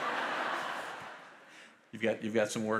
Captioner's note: audience laughs